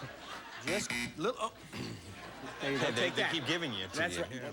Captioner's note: laughter; buzzer